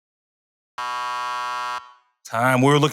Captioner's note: buzzer